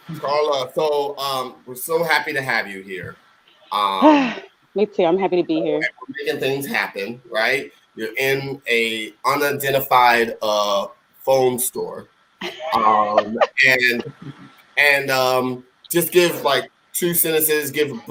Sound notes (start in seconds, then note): 3.7 sighing; 12.5 laughing